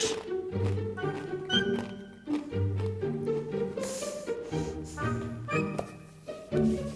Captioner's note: Takis crunching; curious music